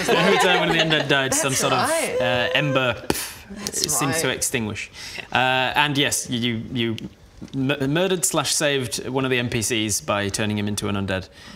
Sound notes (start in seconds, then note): 3.0 poof